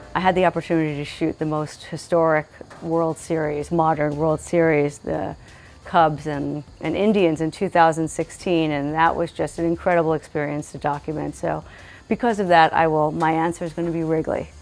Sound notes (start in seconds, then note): none